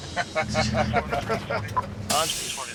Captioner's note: laughter